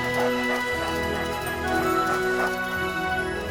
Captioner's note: dogs panting